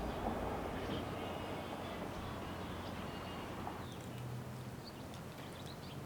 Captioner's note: sound of neighborhood